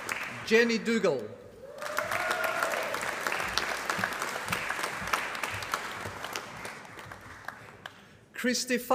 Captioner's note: applause; applause